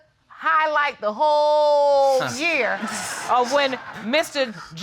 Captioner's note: audience laughing